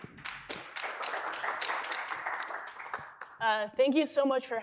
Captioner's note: applause